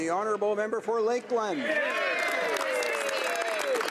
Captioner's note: speaking alternate language; speaking French